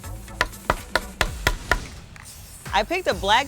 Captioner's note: hammer tapping